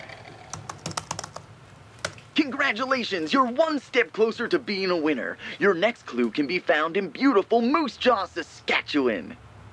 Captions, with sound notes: [keyboard clicking] [voice from website] Congratulations, you’re one step closer to being a winner. Your next clue can be found in beautiful Moose Jaw, Saskatchewan!